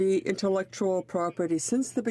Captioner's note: speaking in French